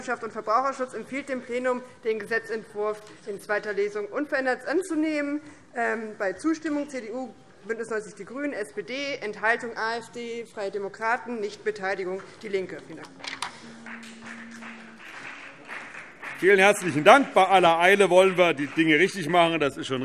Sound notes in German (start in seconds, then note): 13.4 Beifall BÜNDNIS 90/DIE GRÜNEN